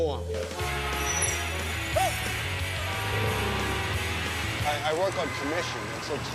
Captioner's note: car horns honk